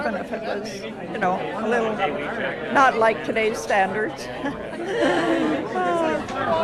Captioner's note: laughs